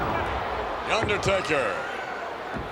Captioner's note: crowd chattering